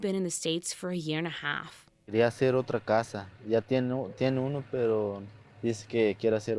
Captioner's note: speaking in foreign language